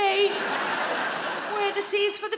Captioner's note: audience laughing